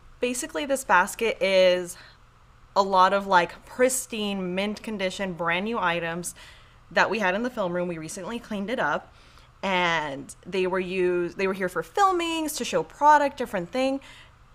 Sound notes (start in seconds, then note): none